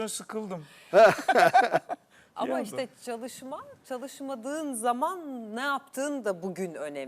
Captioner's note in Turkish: kahkaha